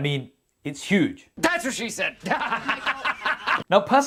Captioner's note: laughs